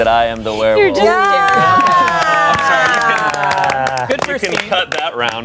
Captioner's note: everyone applauds